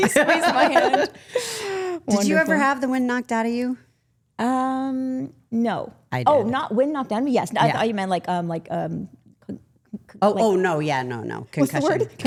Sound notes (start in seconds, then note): 1.6 laughs; 9.6 stutters